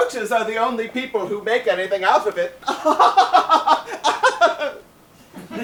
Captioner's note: laughs